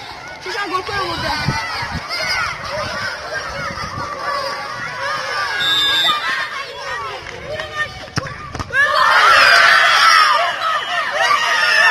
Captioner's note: kids playing soccer